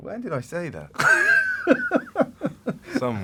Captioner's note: laughter